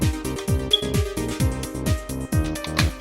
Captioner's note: high-pitched beep